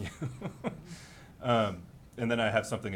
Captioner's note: laughing